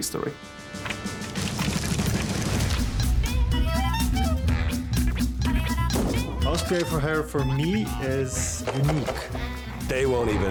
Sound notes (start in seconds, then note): 2.3 paper rustles; 4.9 playful music